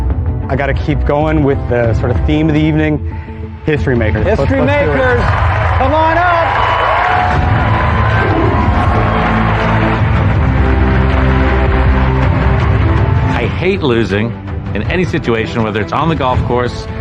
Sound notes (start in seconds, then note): 6.7 cheering and applause